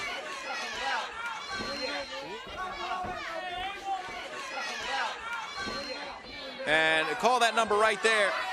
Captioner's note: crowd chatter